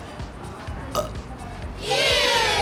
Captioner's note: burps